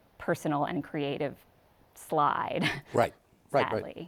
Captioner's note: chuckles